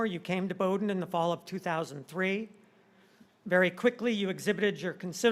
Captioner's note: none